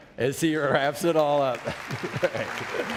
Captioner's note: background applause; laughs